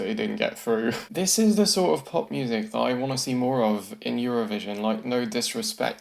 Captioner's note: chuckles